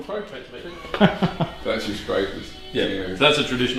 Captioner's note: laughs